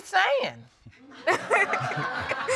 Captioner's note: all laughing